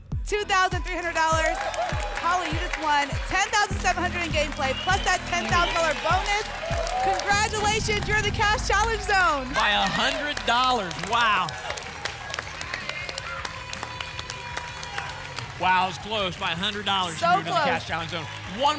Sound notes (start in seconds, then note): 12.0 applause and cheering